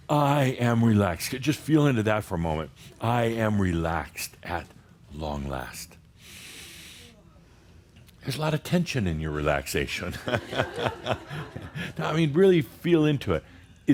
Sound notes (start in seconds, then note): 6.2 Adamus takes a deep breath; 10.2 Adamus chuckles